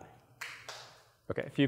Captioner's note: sparse claps